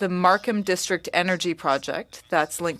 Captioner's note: speaking French